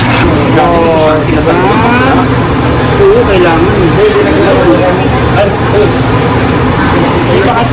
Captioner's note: indistinct chatter